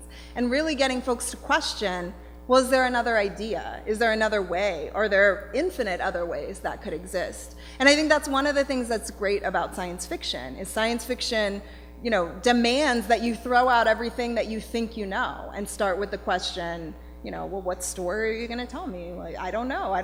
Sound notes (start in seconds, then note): none